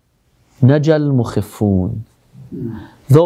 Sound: Arabic

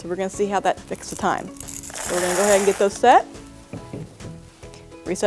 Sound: candy rattles

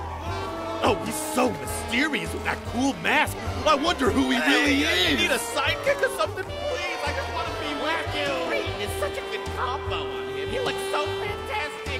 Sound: cheering

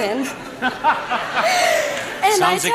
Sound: laughter

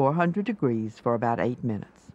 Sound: voiceover

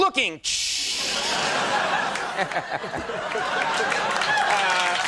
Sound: audience laughing; audience clapping

